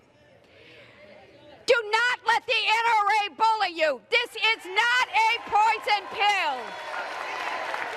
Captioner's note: applause